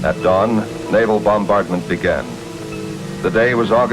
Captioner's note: irritated cries